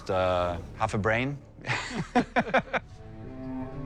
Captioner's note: both laugh